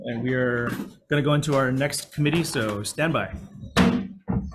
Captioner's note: gavel banging